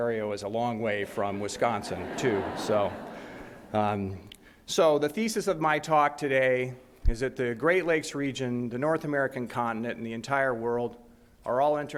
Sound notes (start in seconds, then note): 1.1 audience laughs